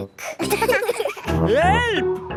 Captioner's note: laughing